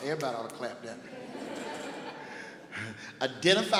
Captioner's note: laughing